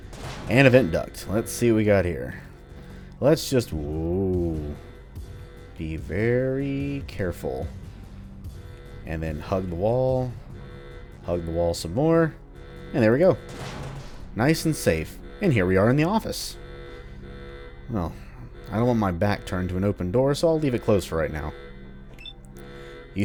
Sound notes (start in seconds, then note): 0.1 smash; 13.8 smash; 16.6 klaxon Still Blaring